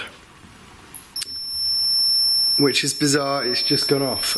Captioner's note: beeping